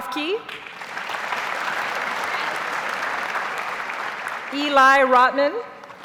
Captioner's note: audience applauds